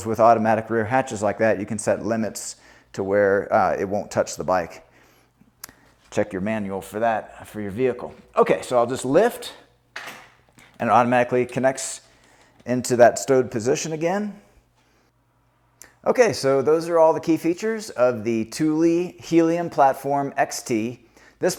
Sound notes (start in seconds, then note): 10.0 platform clicks